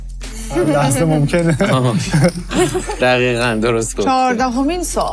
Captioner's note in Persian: خنده